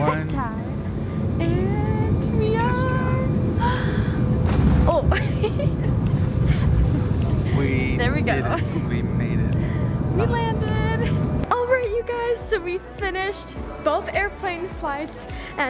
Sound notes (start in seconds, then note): 0.8 laughs; 4.2 plane thuds; 6.9 laughs